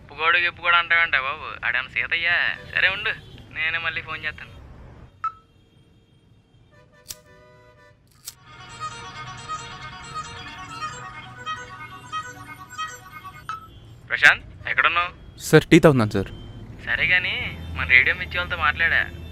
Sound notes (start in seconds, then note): 7.0 lighting cigarette; 9.3 phone ringing